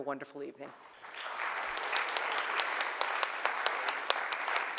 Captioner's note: audience clapping